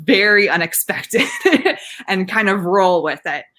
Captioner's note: laughing